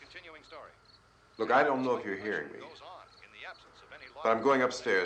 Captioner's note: man on radio continues announcing